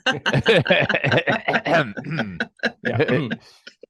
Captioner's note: group laughing